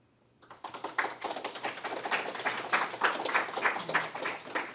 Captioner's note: applause